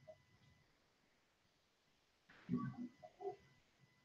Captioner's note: long, awkward, silence